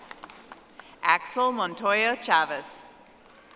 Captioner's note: audience applauding